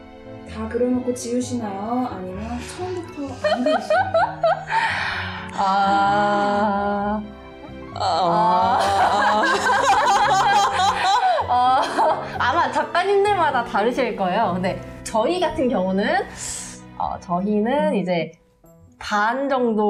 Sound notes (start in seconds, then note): 3.4 laughing; 8.4 laughing